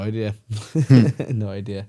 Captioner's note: laughs